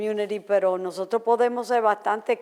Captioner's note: foreign language